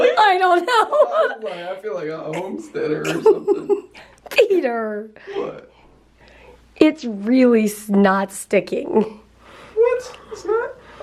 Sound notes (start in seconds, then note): 2.7 laughing; 2.9 laughter